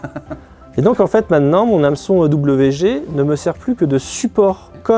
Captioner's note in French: 'Rire